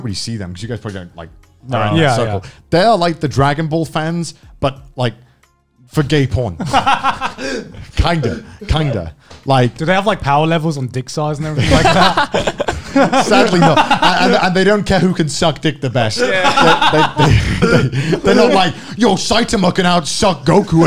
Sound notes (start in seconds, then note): 6.6 men laughing; 11.5 laughing; 16.1 men laughing